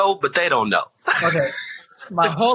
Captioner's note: laughs